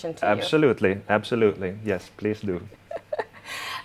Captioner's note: laughing